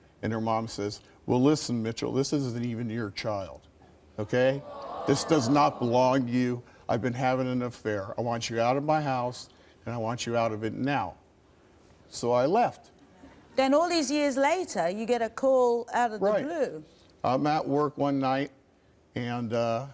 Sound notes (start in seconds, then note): 4.4 audience groans